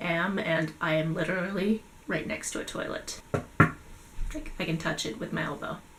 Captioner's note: knocks on it